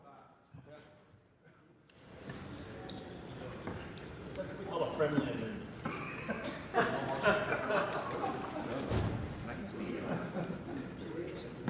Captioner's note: some Applause